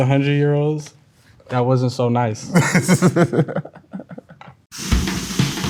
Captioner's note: laughs; upbeat music